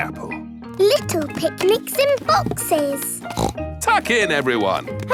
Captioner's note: snorts